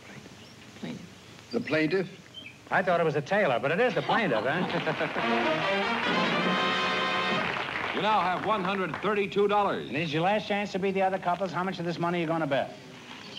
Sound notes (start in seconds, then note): 0.0 whispers; 4.0 laughter